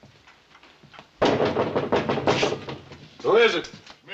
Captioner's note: knocking on door